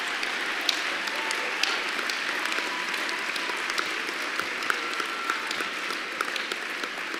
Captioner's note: laughter and applause